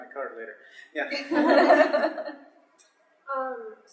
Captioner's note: laughter